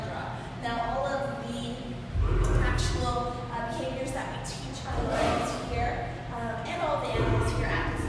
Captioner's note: lion growl